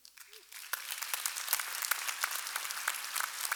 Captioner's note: applause